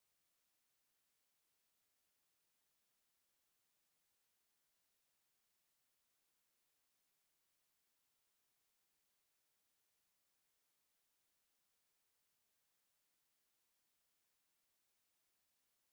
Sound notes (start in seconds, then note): none